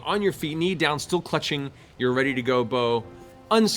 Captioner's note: none